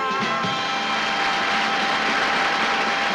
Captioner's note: applause